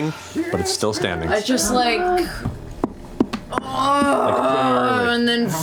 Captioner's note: groans